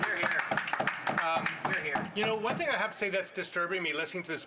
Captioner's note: some Applause